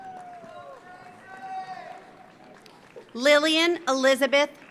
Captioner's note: audience cheers; audience applauds